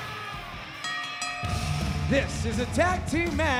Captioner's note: bell ringing